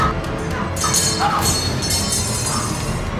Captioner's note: sound of knife hitting the floor